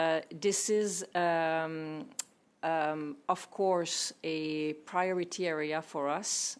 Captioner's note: speaking French